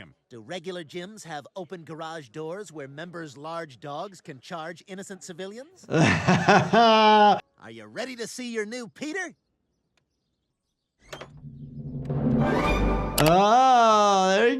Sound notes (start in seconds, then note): 5.8 Dr. Jordan laughs; 11.1 Peter's body squeaks; 11.4 dramatic music